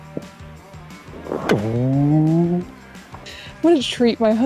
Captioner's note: making turkey drumming sounds